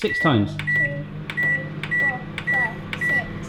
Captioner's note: electronic beeping